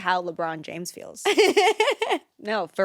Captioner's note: laughs